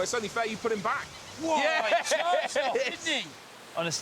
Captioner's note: both laugh